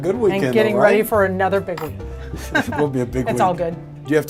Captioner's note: laughs